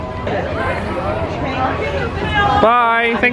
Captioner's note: indistinct chatters